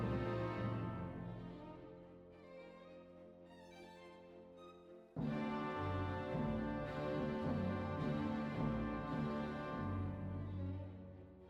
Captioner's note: plane